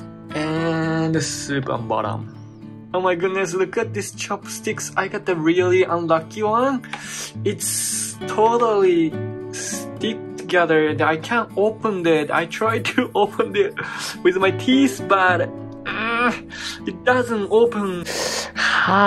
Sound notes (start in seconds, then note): 16.0 strains; 18.2 winces